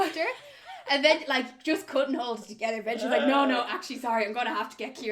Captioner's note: laughs